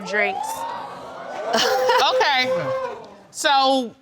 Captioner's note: crowd gasping